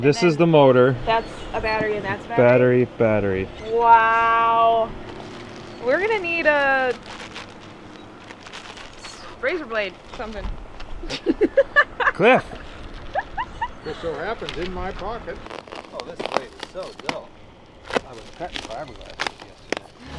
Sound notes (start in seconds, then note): 11.0 laughs